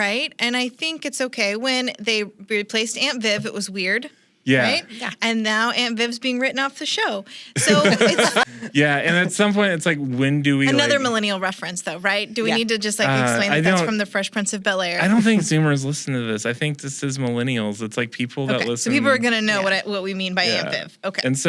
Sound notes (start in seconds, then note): 7.5 laughs